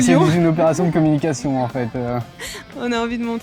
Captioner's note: laugh